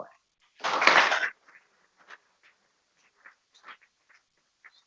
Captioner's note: people clapping